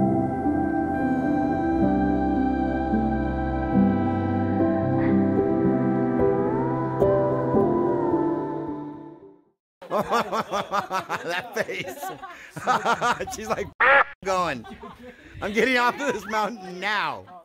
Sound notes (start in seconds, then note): 9.8 laughter